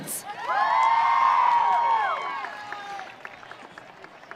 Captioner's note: audience cheering